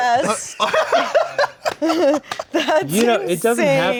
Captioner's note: laughing